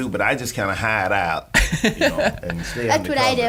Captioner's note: laughing